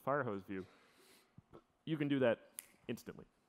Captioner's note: snaps fingers